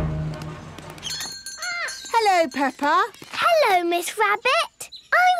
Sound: bell jingling

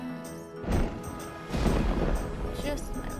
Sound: thundering

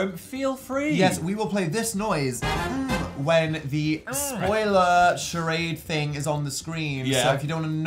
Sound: look away noise

